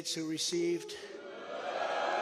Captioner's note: crowd boos